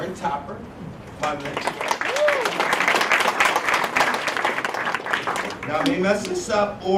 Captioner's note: applause